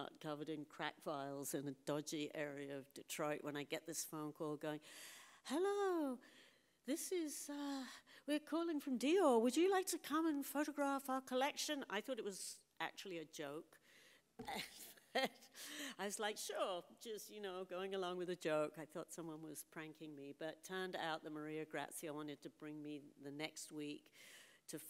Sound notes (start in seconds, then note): 14.4 laughs